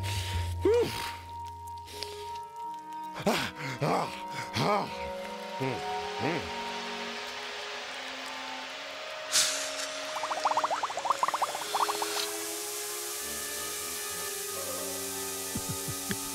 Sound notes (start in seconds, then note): 4.0 panting